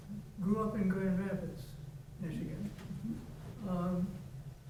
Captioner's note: faintly speaking